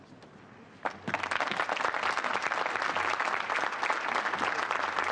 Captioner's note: applause